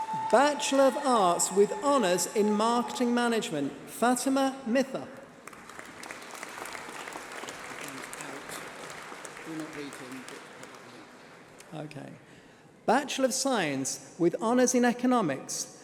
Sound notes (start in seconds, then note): 8.0 applause